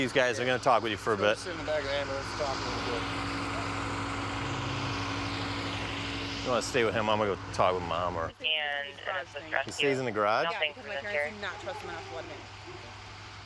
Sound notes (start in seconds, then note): 7.9 police radio chatter